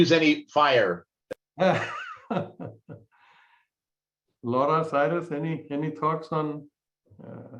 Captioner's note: laughter